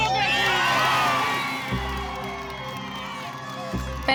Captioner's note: cheers and applause